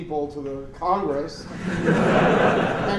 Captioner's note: laughter